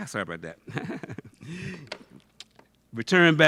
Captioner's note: laughs